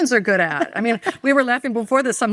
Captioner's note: laughing